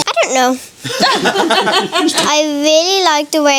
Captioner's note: everyone laughs